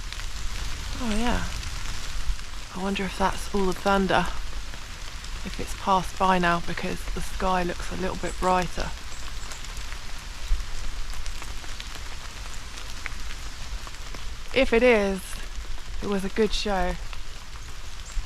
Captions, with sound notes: oh yeah I wonder if that's all the thunder if it's passed by now because the sky looks a little bit brighter *rain* if it is, it was a good show